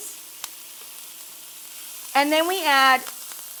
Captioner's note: vegetables sizzle